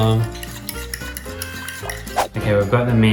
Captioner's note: stirring sound